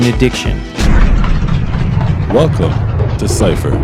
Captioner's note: gears slowing down